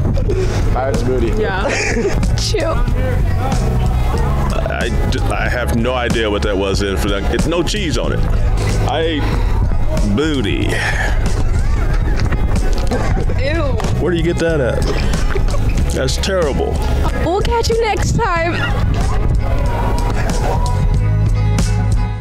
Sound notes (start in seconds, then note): 2.9 music and nat sound up full; 4.3 music under; 10.6 laughing; 10.9 music and nat sound up full; 18.3 laughing; 19.5 music and nat sound up full